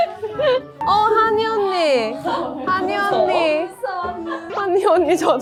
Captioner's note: voice gets lost in her laughter